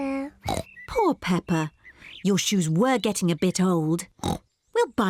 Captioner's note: oinks